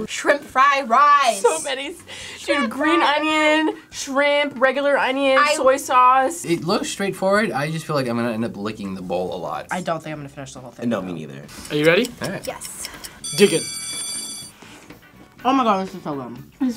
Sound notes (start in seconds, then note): 13.2 bell rings